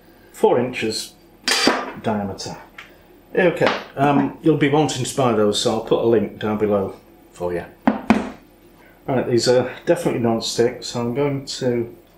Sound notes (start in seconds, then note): none